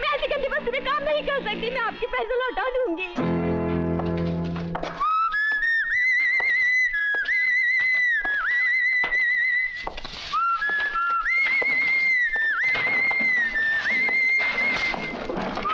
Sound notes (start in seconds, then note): 4.9 Munna whistling